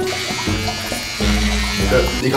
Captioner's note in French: Bruit d'un rasoir